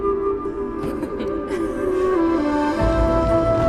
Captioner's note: they laugh